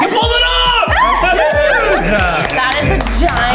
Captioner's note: claps